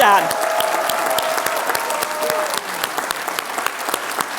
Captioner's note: applause